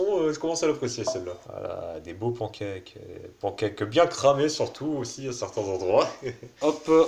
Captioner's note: laughter